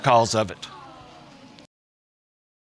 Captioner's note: audience gasps